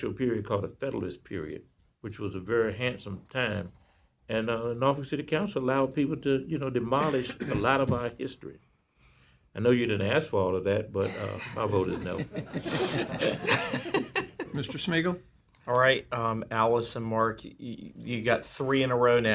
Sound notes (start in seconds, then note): 13.8 laughter